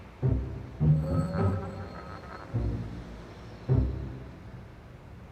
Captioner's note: object scraping